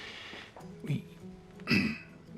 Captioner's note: clears throat